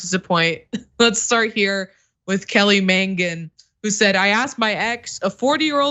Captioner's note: laugh